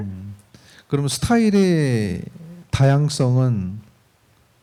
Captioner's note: speaking korean